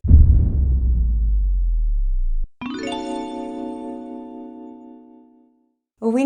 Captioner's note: sound effects